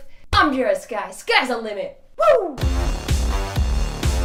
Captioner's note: screams; energetic electronic music